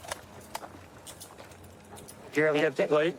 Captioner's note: handcuffs clicking